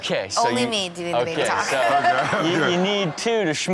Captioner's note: laughs